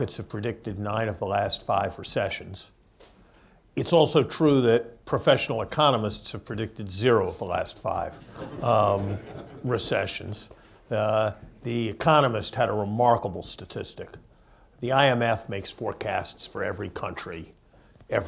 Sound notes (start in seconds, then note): 10.7 laughter